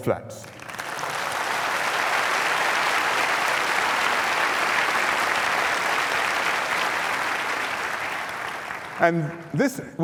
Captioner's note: applause